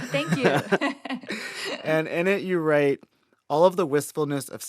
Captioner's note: laughter